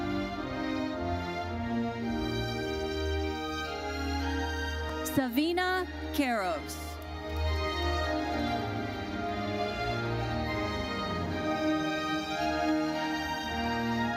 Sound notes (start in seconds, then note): 7.4 audience applauding; 9.7 gentle uplifting music continues